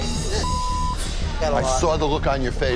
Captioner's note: suspenseful music; beep